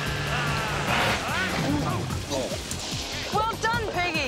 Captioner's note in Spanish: el bote a motor gorgotea, se detiene